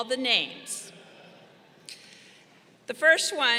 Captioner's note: crowd chuckling